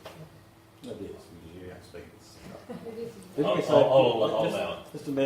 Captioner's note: mumbling and muttering